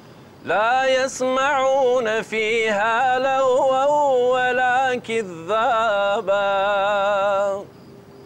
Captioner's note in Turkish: Arapça kuran okunuyor